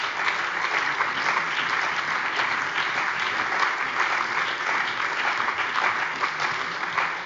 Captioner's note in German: Lebhafter Beifall